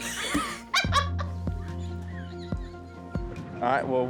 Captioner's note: laughing